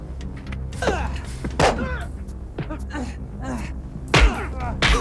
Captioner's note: punches thudding